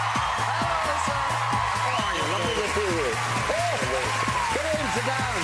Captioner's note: audience cheering